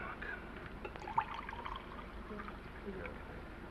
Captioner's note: liquid pours